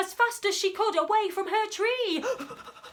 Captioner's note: panting